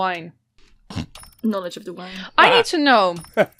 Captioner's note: laughs